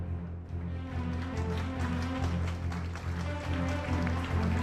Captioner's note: audience claps